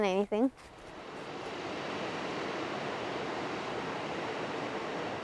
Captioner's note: water rushing